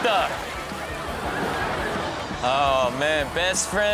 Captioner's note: audience laughing